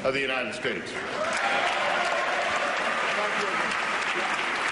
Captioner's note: applause and cheering